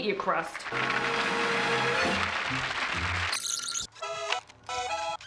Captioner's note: applause; accordion music plays